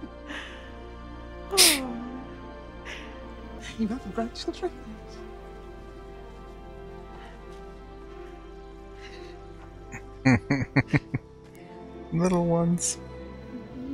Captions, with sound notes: [Sniffles] [Chuckling] Little ones.